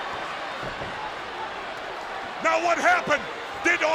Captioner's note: spectators cheering